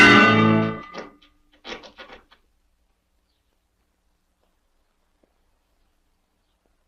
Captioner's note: church bell clangs; rope creaks